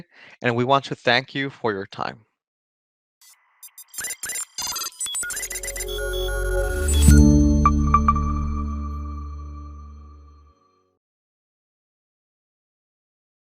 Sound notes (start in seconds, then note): 3.4 static crackling; 5.2 bright electronic music